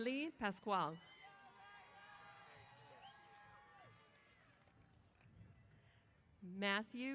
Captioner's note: cheers